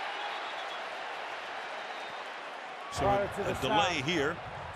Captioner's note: whistle